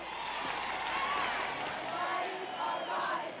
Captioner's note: cheering